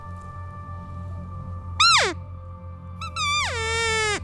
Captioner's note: cow calling